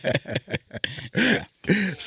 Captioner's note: both laughing